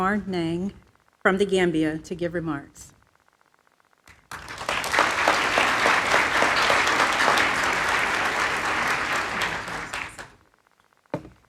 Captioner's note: applause